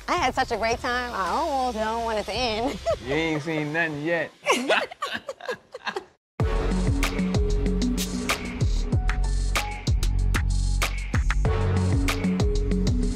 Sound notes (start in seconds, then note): 4.4 both laughing; 6.4 upbeat music playing